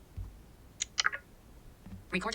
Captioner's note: tick sound